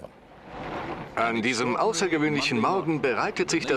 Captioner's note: voiceover